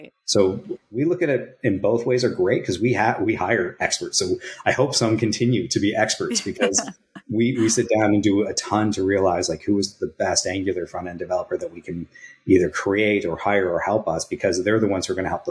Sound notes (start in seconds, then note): 4.2 <Laugh>